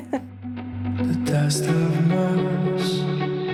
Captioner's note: chuckles